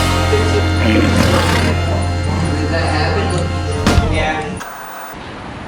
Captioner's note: lion roars, chatter in background